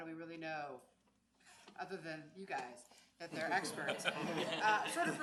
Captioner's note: panel laughs